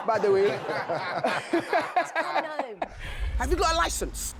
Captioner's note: everyone laughing